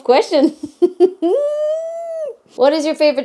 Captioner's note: chuckling